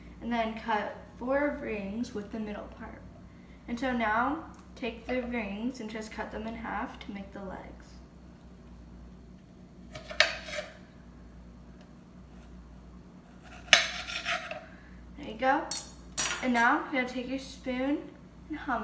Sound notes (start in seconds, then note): 9.9 knife cuts